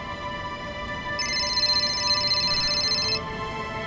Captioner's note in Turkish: telefon sesi